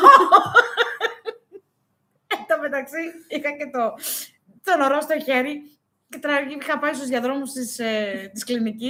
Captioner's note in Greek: γέλια